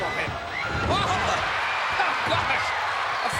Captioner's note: crowd cheers